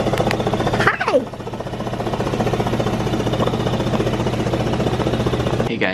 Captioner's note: vest machine vibrating